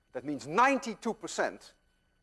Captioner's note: none